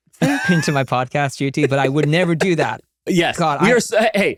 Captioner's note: laughing